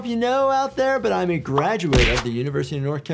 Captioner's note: graphic pops; cap thuds